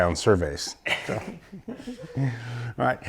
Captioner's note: laughs